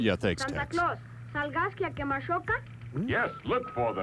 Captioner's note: dialogue not in English